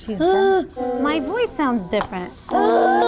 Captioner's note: teacher Gasps; children making sounds into tubes